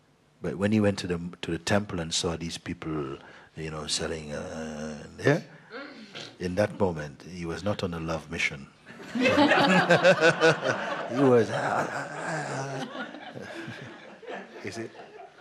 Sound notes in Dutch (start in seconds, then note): 8.9 gelach